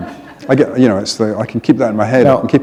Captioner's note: laughter